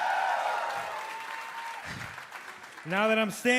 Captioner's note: crowd cheering